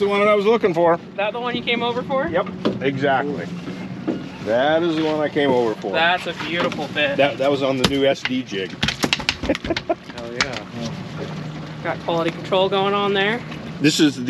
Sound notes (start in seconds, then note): 10.4 thunk, thunk; 11.1 chuckling